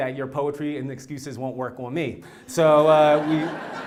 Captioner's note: laugh